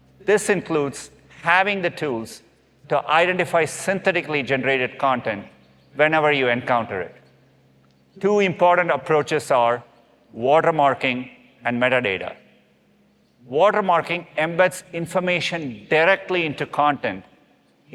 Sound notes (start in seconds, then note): none